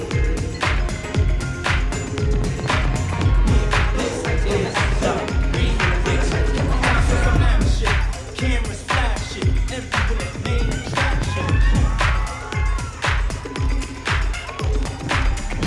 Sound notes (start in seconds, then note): 11.5 audience cheering